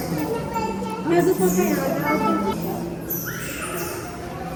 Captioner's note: crowd chatter